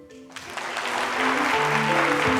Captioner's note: applause